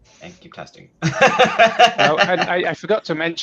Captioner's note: laughs